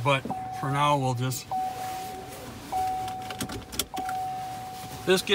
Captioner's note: door binging